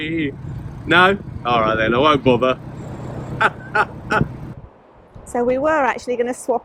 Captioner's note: laughter!!